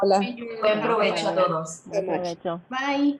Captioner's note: spanish